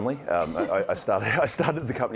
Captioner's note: chuckling